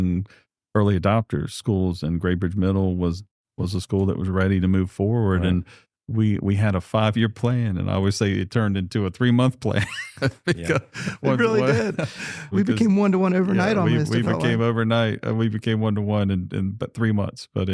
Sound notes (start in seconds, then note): 9.7 laughter